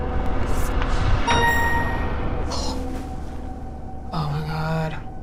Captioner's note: bell dings